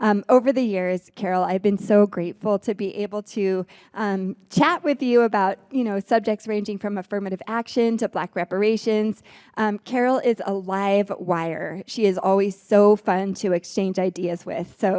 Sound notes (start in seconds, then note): none